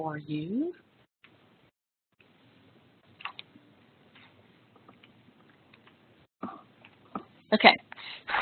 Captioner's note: silence